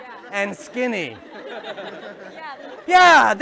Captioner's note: laughter